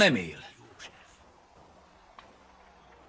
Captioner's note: whispers